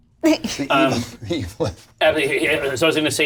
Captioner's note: laughs